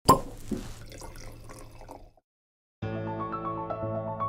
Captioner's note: wine cork popping; wine pouring; classical music